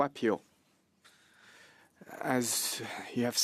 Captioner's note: speaking French